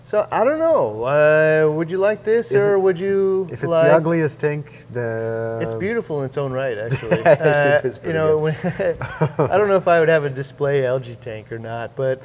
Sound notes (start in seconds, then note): 6.8 laughs